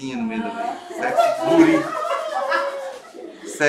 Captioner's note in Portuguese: gritos de emoção